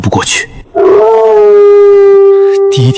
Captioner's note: wolf howl